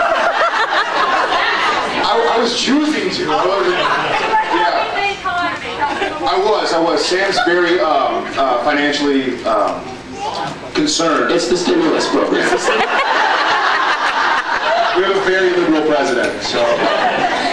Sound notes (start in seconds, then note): 0.0 laughs; 12.3 laughs